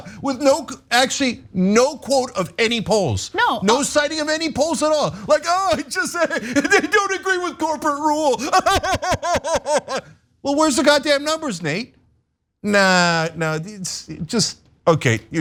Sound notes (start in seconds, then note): 8.0 laugh